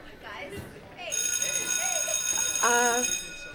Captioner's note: school bell rings